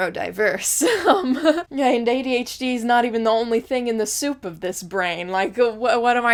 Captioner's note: laughs